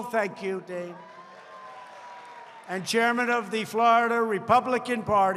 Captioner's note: applause